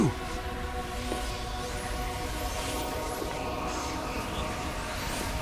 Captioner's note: whistling sounds